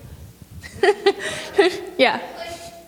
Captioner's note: laughter